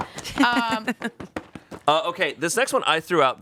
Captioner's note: laughing